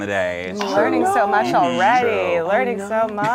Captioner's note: overlapping chattering